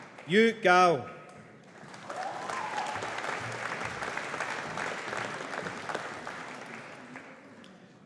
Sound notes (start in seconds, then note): 1.6 audience applauding